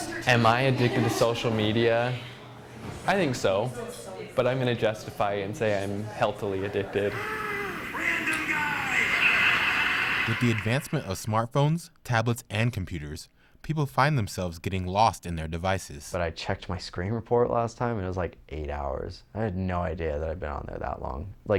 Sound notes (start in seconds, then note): 7.1 gasps; 8.8 laughter